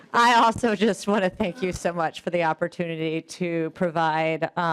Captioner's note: laughing